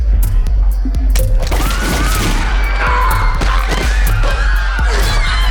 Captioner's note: women screaming